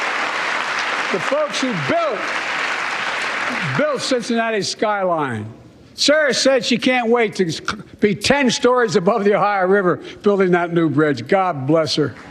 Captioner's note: cheers and applause